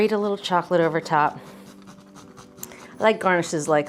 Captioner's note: grater scraping